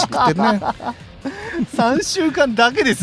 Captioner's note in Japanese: 笑い